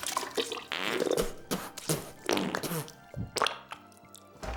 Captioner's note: plopping; repeated spitting